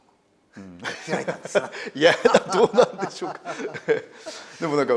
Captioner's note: laugh